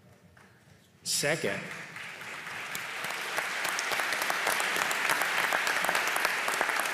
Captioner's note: applause